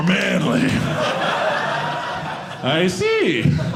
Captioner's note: audience laughing